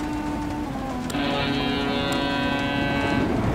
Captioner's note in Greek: Κόρνα!